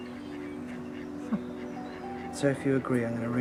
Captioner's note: Jen chuckles